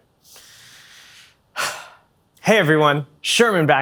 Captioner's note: disappointed sigh